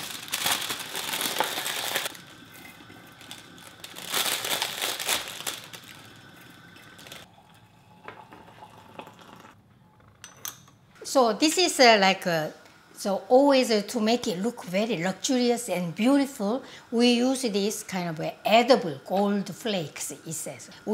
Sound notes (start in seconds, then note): 0.0 bag crinkling; 2.6 tea leaves thudding; 2.7 bag crinkling; 7.6 water guzzling; 10.2 lid clinks